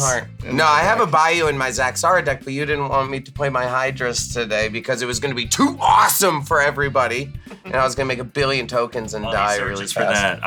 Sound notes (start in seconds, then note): 7.4 laughter